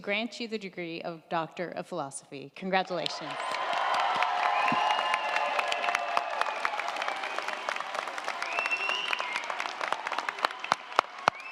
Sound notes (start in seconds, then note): 3.0 crowd cheering; 3.0 crowd clapping